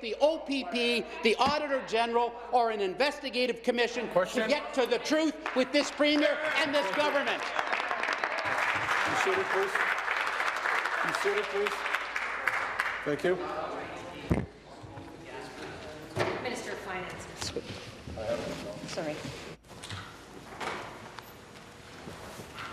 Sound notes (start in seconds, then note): 11.0 applause